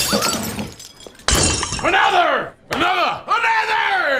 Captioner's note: glass smashed